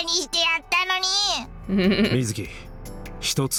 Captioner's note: chuckles